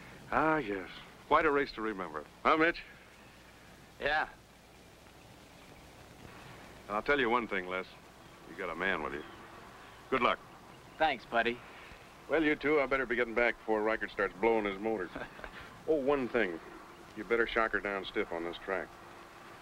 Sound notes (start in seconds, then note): 15.0 laughing